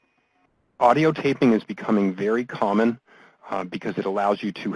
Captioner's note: voiceover